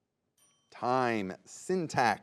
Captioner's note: bell dings